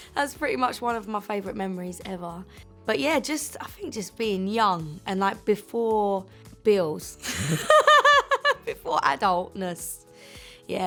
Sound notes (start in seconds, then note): 7.2 giggles